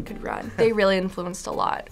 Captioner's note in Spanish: se ríe